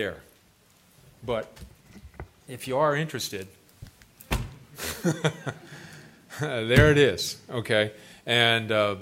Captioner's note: laughs